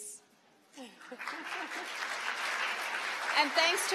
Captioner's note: applause